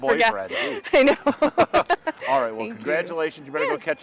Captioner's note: laughing